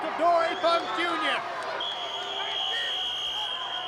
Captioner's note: crowd cheers and jeers; whistle trills